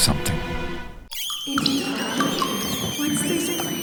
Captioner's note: rats squeak